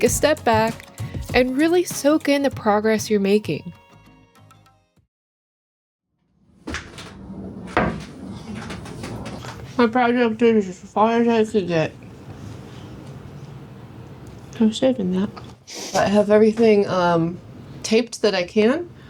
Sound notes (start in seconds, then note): 6.6 door opens; 8.6 door closes